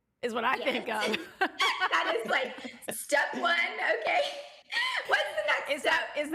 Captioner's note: laughing